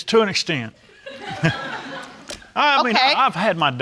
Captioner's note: all laughing